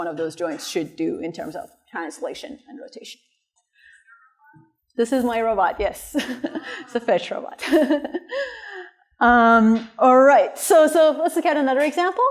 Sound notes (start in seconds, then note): 7.6 laughter